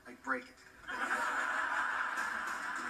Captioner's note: canned generic laughter